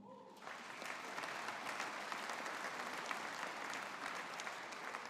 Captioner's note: audience applauding